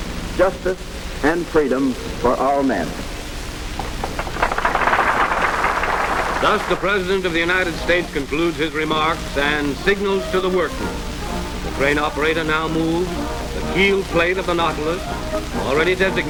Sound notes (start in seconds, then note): 3.8 applause